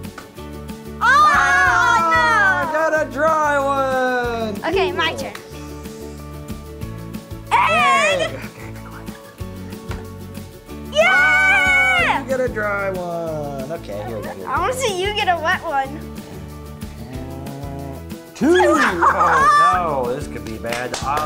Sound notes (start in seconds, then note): 1.0 cheers; 9.7 upbeat music